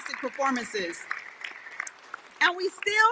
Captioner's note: audience applauding